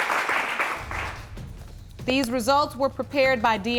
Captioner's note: applause